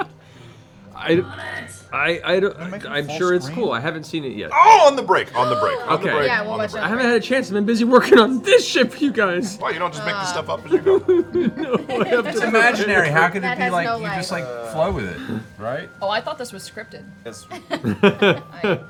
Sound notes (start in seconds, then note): 12.0 mock weeping